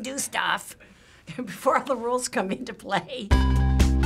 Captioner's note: laughing; theme music